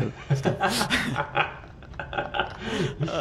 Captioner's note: laughing